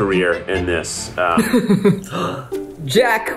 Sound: group laughing; gasps

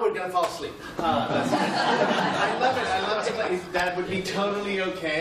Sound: laughter

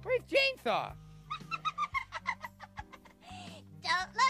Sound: giggling

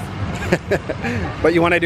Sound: laughs

